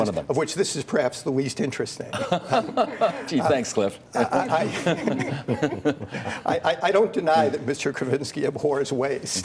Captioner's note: laughter